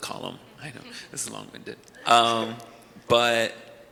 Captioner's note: panelists chuckle